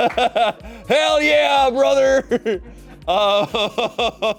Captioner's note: laughs